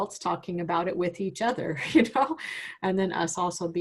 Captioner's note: laughs